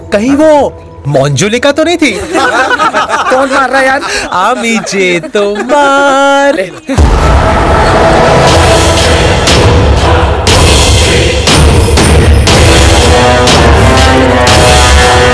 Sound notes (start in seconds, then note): 2.2 Laughs